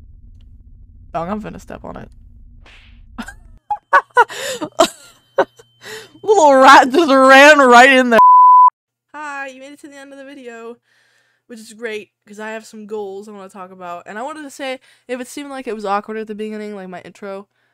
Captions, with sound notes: dawg im finna step on it... *slap* *dying of laughter* A LITTLE RAT JUST RAN RIGHT IN THERE- hiiii! you made it to the end of the video! which is great, cuz I have some goals I want to talk about. and I wanted to say.. if it seemed like it was awkward at the beginning like, my intro..